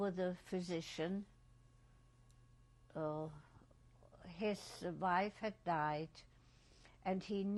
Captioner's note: pauses for 3 seconds